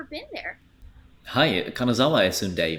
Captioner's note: speaks in japanese